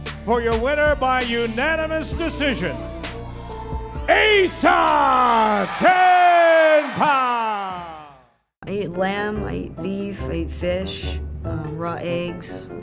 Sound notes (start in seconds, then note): 4.0 audience cheering; 8.6 playful music